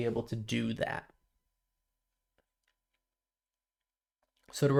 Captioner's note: silence